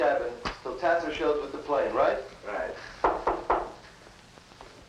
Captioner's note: knocking at door